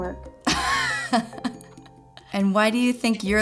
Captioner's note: laughs